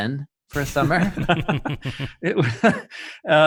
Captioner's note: men laughing